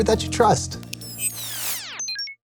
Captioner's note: computer beeps